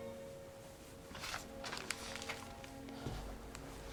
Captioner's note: newspaper grasping